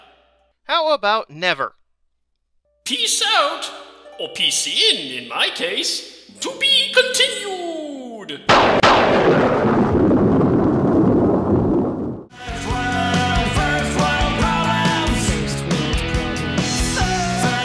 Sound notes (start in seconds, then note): 8.5 thunderclap